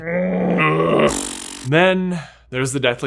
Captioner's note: groans